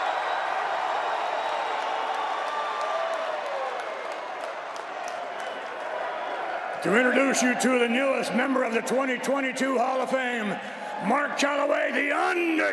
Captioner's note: cheers and applause